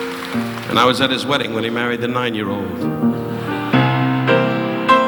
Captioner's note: audience applauding